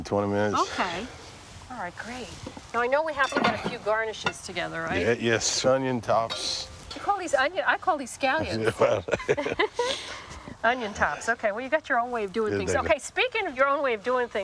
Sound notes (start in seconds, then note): 8.5 laughing